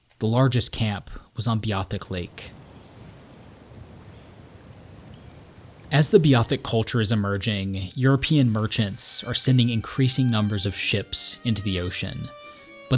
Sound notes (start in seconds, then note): 3.3 wind rustling; 12.1 light classical music